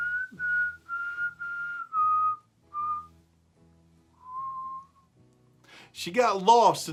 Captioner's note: whistling